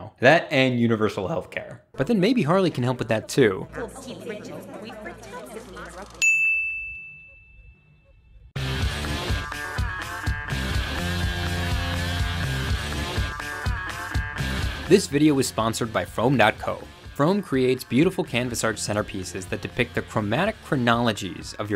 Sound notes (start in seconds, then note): 6.1 bell rings; 8.5 upbeat music